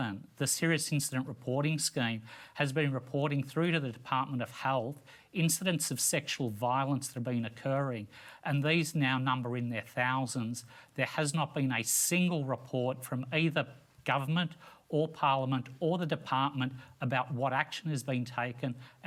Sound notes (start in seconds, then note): none